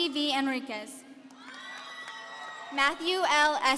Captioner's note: audience cheering